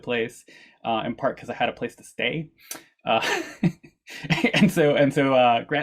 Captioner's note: chuckles